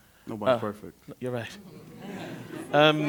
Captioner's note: affirmative sounds